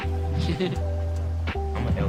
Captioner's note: chuckling